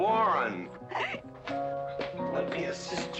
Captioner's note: Mrs. Warren giggling